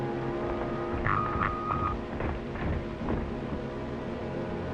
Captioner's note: beeping